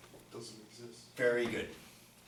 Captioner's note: voiceover